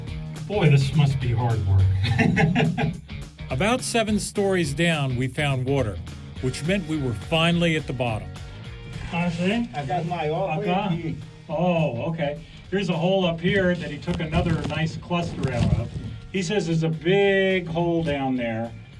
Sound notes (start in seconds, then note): 1.1 laughs; 8.7 both speaking Portuguese